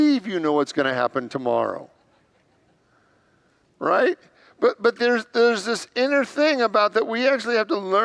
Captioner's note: congregants laugh